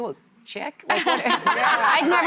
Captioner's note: laughing